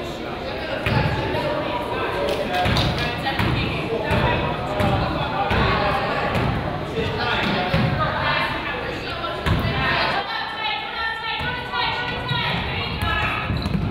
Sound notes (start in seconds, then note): 4.9 teams chatter